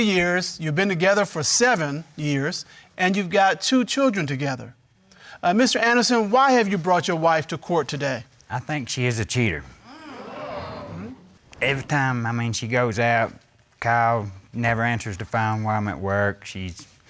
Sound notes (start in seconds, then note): 7.9 crowd gasping